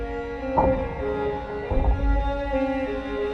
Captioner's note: another arrow wooshes